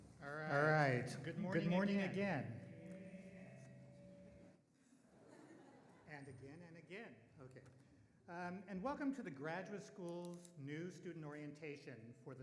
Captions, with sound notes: - Alright, good morning again (microphone feedback) (audience laughing) and again and again, okay. Welcome to the Graduate School's New Student Orientation